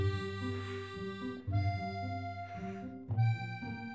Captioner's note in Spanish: jadeo